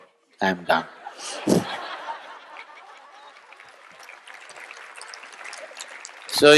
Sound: laughter/Applause

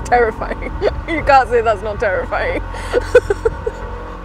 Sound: loud, Groaning, Metal Scraping Noise

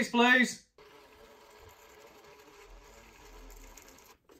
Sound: printer whirring

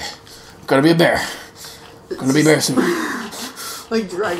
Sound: panting

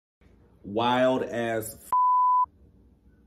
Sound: beep

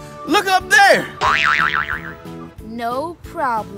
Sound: spring bounces

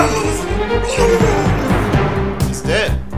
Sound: choking, dying

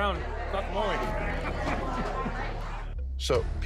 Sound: patron laughs

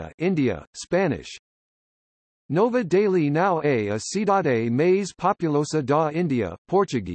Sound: Spanish

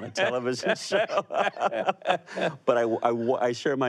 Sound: both laughing

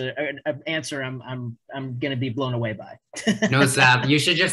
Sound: laughs

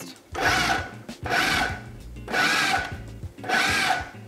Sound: blender roaring

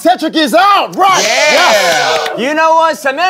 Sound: sound of clapping

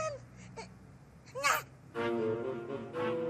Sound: exclaims

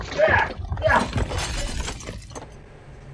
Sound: more grunting; things breaking

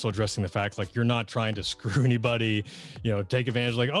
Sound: giggles

